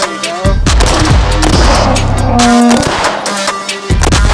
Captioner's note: rock music; gun bangs